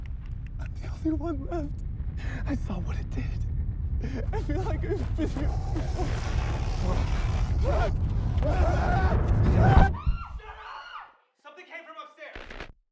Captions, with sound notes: I'M THE ONLY ONE LEFT. I SAW WHAT IT DID. I FELL LIKE I'VE BEEN HERE BEFORE. [ SCREAMING ] - SHUT UP. SOMETHING CAME FROM UPSTAIRS.